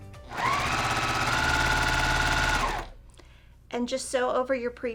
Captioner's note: sewing machine humming